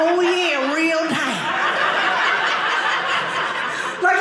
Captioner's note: audience laughing